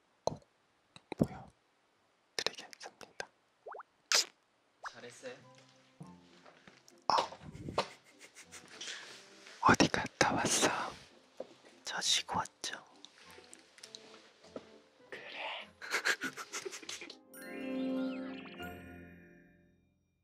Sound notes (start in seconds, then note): 15.8 laughs